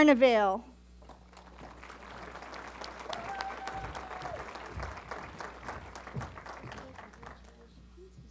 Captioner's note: applause